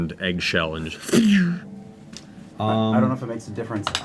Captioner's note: ricochet sound